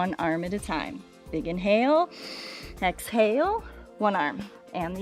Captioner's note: inhales